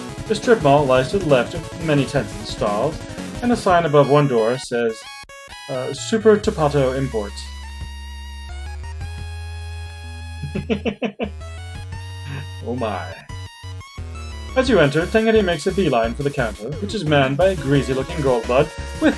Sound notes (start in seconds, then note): 10.4 chuckles